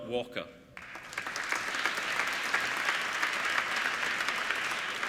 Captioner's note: applauding